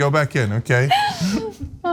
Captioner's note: laugh